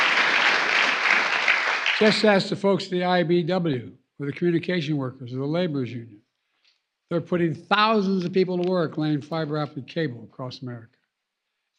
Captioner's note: applause